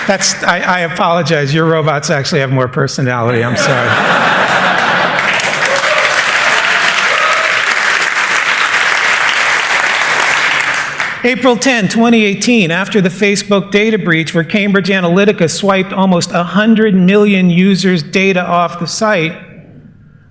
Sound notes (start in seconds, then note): 3.3 laughter; 4.5 applause